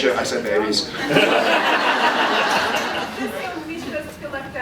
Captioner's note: laughs